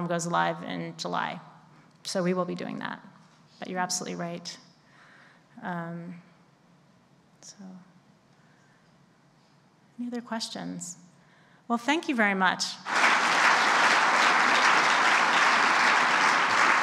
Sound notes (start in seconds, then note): 12.8 clapping